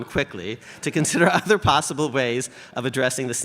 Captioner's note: chuckles